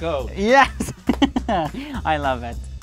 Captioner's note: laughing